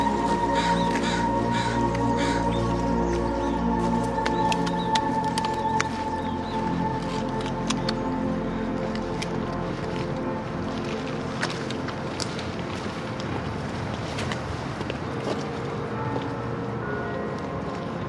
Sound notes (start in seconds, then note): 0.0 crows caw; 15.8 church bells toll